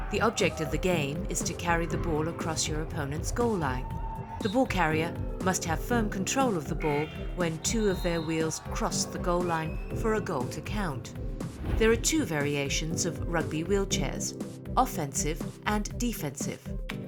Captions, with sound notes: The object of the game is to carry the ball across your opponent's goal line. The ball carrier must have firm control of the ball-- [BUZZER] --when two of their wheels-- [CHEERING] --cross the goal line for a goal to count. There are two variations of rugby wheelchairs, offensive and defensive.